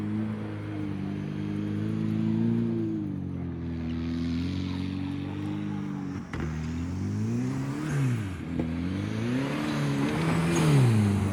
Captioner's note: engine revving